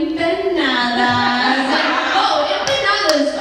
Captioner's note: laughter